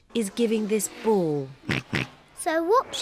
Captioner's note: oinks